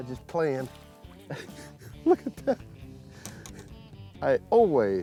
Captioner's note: laughs